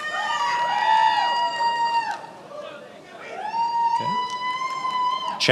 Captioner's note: attendees applauding and cheering